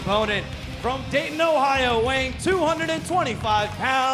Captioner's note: crowd cheering